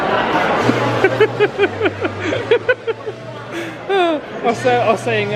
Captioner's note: upbeat music; laughing